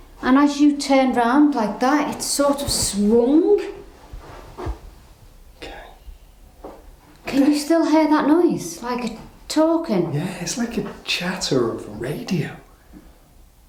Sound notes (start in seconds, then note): none